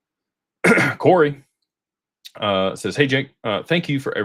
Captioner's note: clears throat